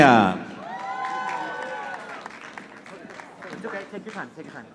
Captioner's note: audience applauding